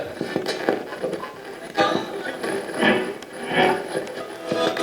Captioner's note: radio channel changing